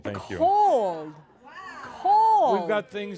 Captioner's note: someone shouts “Wow!”